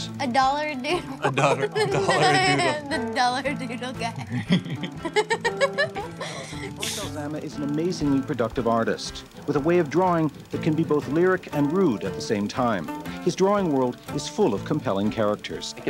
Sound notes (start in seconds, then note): 1.0 laughs; 4.0 both laugh